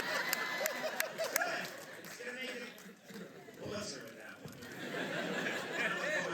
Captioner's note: laughter